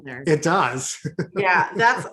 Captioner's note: chuckles